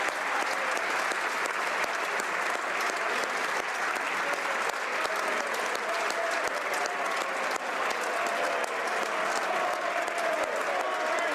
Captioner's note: applause